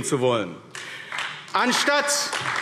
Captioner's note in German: Beifall AfD